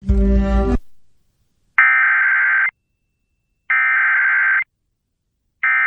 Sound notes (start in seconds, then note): 1.7 SAME header tones